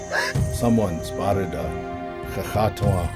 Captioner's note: gasp